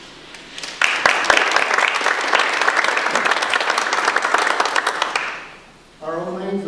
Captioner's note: audience applause